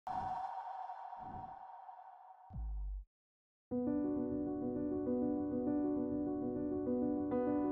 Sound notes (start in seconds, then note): 0.1 echoing sound; 3.7 thoughtful piano music